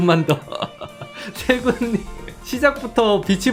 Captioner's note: laughing